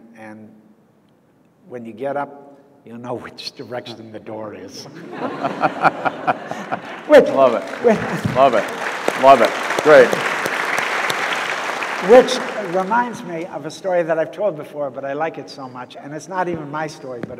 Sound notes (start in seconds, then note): 4.9 audience laughs